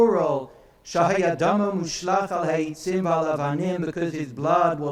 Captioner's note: speaks in foreign language